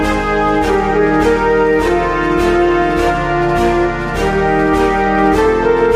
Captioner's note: none